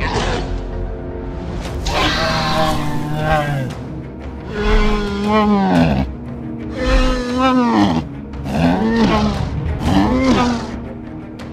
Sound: Ankylosaurus Sounds

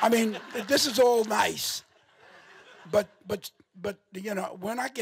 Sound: audience laughing

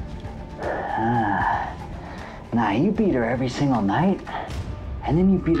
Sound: sighs

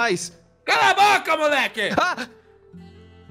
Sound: screaming

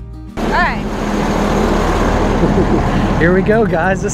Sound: truck engine roaring

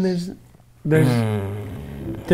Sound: groans

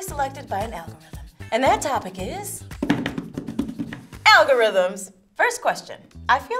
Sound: drums on table

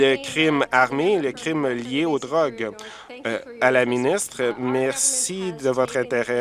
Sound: applause

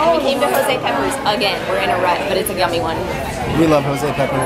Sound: none

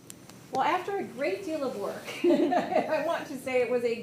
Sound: laughs

